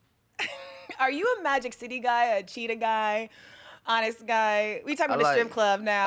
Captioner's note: laughing